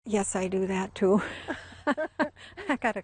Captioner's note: laughing